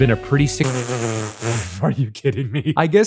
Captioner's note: blows raspberry